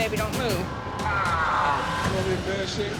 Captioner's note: screaming